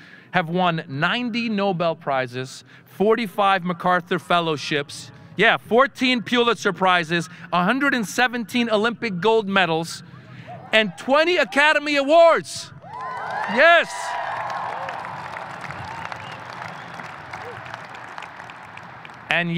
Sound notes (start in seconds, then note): 12.8 audience cheering